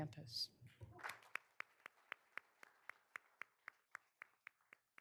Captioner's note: all applauding